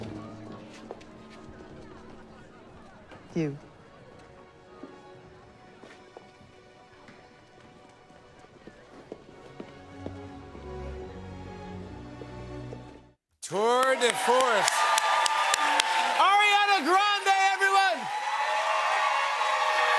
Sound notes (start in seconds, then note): 13.4 cheers and applause